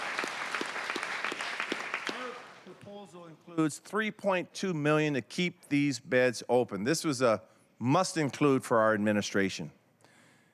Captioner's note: applause